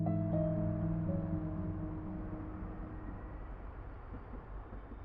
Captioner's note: distant traffic